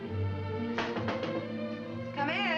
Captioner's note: door knocking